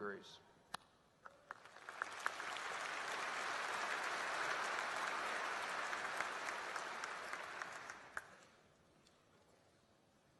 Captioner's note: applause